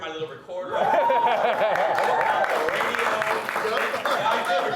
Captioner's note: crowd applauding